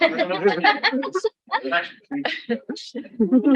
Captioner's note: woman laughing